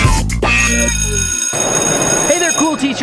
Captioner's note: bell ringing